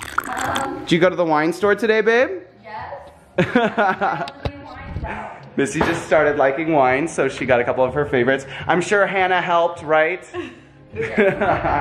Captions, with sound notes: Did you go to the wine store today, babe? - Yes. (laughing) - Missy just started liking wine so she got a couple of her favorites. I'm sure Hannah helped, right?